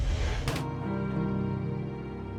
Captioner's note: gun firing